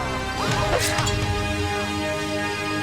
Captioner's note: thud; snick; whoosh